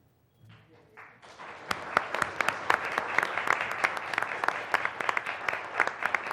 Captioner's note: applause